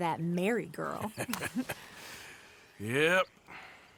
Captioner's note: laughs